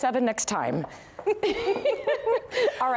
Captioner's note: laughter